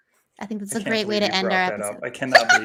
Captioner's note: laughs